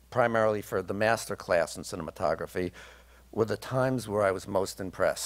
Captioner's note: none